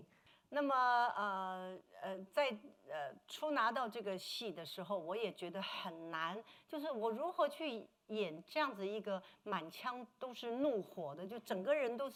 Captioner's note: speaking Mandarin